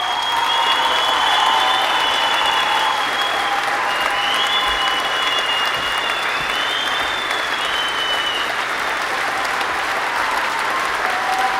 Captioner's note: applause